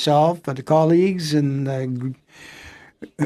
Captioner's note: speaking French